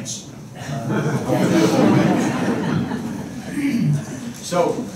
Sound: laughter

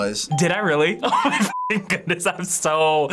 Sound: laughs

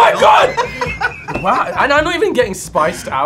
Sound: laughing

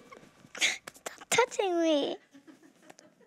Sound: laughs

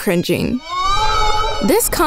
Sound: ghost screams

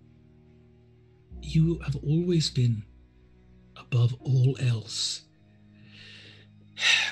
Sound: sighs

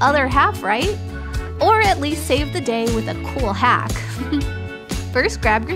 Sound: chuckle

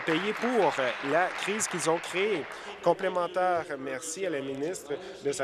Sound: applause

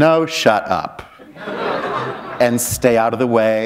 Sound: laughter

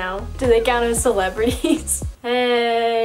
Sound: laughs

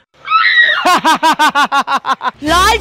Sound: laughing

